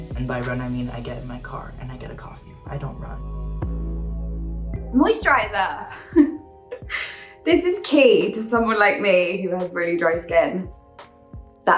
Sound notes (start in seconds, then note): 5.9 chuckles